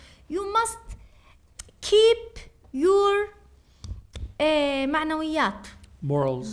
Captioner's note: speaking arabic